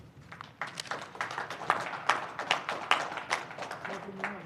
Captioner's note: applause